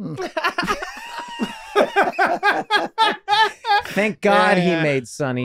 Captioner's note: group laughing